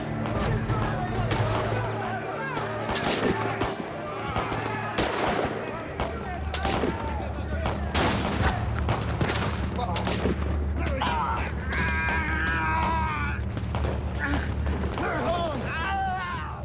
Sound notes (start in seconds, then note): 10.8 groaning